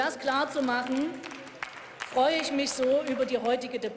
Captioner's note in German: Beifall